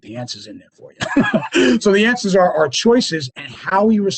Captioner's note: laughs